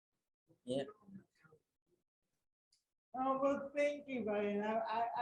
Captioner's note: Ryan muffled